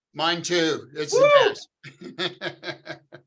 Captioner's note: hooting; laughing